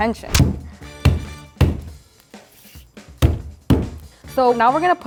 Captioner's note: Brussels smashing